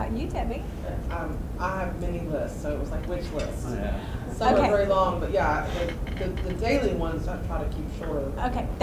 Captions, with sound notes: What about you, Debbie. - [Voiceover] I have many lists, so it was like, which list? Some are very long but the daily ones I try to keep shorter.